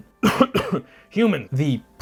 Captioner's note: cough cough